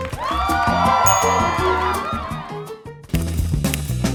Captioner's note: audience cheers